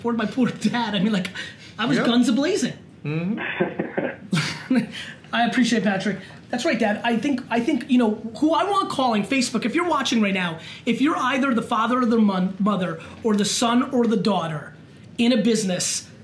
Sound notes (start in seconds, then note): 3.2 laughs; 3.2 chuckles